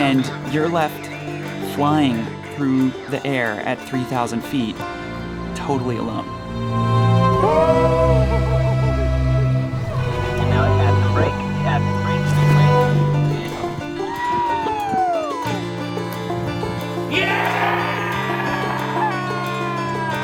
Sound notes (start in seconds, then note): 7.1 anticipatory music; 14.0 adventurers whooping